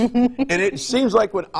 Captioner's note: laughs